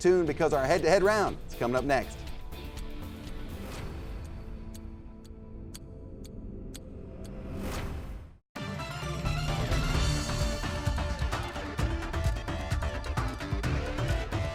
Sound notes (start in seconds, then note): 3.0 upbeat music; 5.4 ticking; 8.6 upbeat music